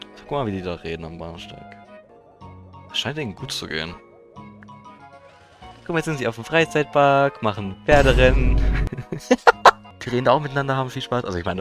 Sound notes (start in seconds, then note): 9.3 laughs